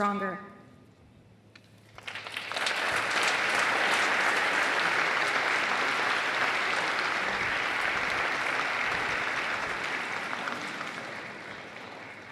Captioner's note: applause